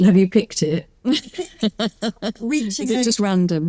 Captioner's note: both laughing